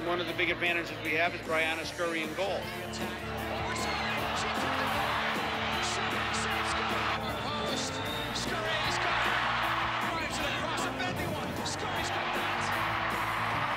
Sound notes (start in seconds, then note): 5.3 cheering